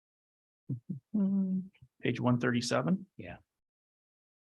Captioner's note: hums